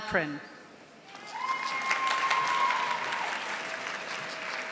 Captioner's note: audience applauding